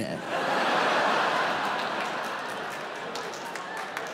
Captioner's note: audience laughs